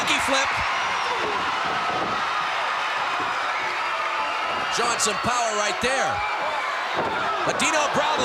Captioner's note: applause